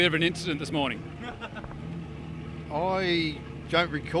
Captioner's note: chuckles